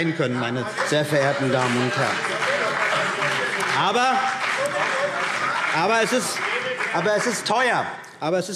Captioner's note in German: Beifall CDU und BÜNDNIS 90/DIE GRÜNEN – Zurufe AfD